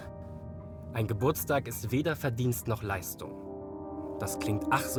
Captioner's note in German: mänl. Stimme